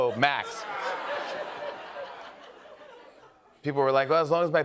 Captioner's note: laughter